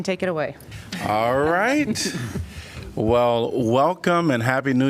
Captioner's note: laughter